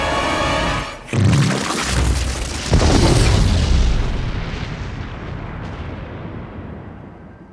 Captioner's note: explosion blasts; goo splatters